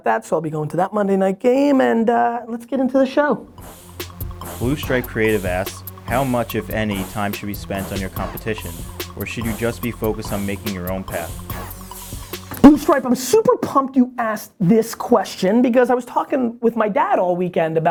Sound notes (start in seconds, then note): 3.9 strong, beating music; 5.0 voiceover